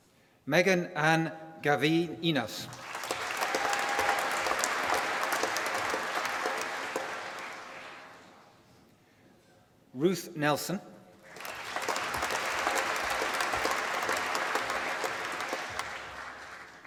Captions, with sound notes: Meghan Ann Gavienas. (APPLAUSE) Ruth Nelson. (APPLAUSE)